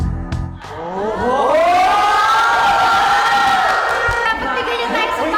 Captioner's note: people exclaiming; shrieks in excitement